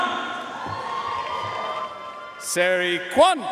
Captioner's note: audience cheering and applauding